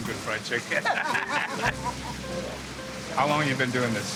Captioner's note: all laugh